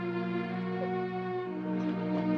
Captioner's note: sobbing